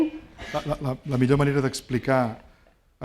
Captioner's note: speaking spanish